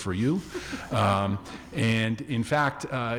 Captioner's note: audience laughing